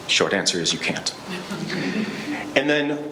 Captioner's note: laughing